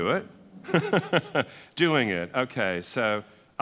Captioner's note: laugh